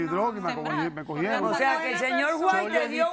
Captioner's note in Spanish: Hablan al unísono